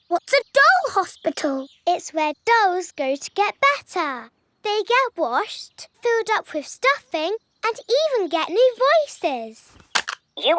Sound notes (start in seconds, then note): none